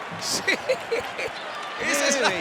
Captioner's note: laugh